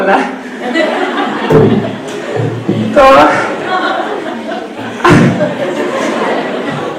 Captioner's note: audience laughs